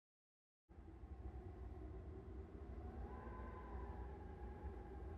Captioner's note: wind howling